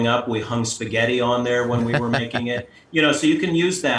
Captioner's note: laughs